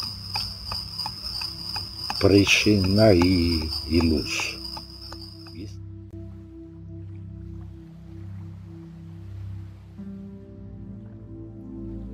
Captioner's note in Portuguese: vibração